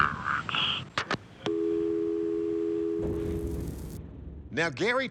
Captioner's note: disconnected dial tone